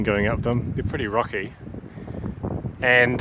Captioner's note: wind noise